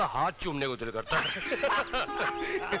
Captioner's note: Laughs